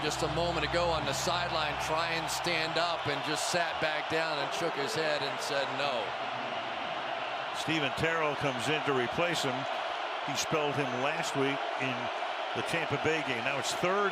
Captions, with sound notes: We saw him just a moment ago on the sideline try and stand up. And just sat back down and shook his head and said no. [cheering] Steven Terrell comes in to replace him. He spelled him last week in the Tampa Bay game.